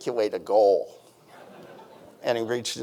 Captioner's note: audience chuckling